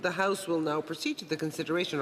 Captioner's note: speaking French